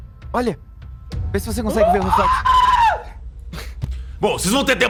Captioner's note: shouts